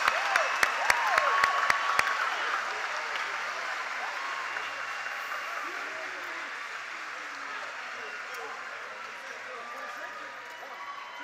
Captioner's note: applause